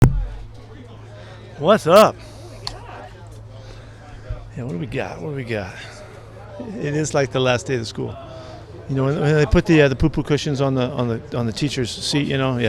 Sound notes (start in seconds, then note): 0.0 people chattering